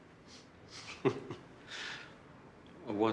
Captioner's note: Tertawa